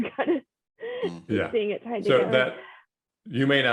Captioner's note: laughs